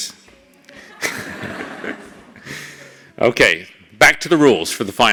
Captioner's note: laugh